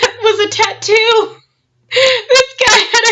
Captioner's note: laughs